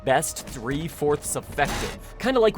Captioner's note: smacking sounds of fragile supplies